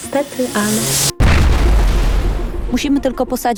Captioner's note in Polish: Dźwięk eksplozji statku kosmicznego